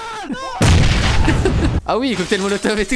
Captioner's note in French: booom